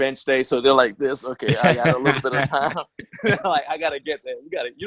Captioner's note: laughs